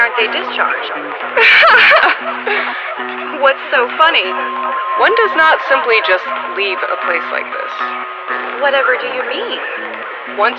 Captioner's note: laughs